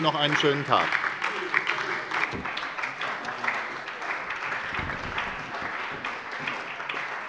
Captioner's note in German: Beifall bei der SPD und der LINKEN